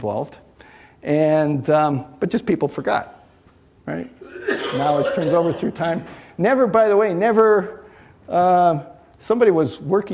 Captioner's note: coughing